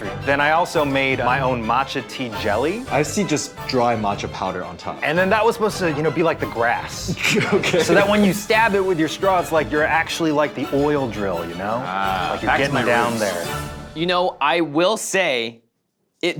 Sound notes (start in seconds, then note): 7.0 laughs